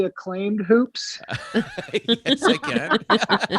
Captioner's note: all laughing